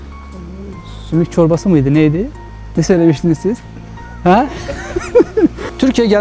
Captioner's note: laughter